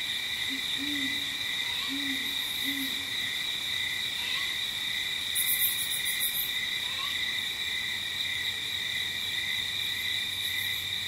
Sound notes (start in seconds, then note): 1.6 owl hooting; 5.8 light jungle ambience